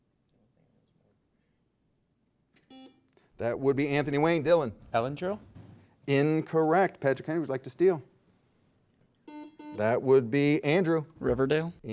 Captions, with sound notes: (soft buzz) - That would be Anthony Wayne, Dillon. - Elendril? - Incorrect. Patrick Henry, would like to steal? That would be Andrew. - Riverdale?